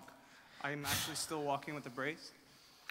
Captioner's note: Gary sighs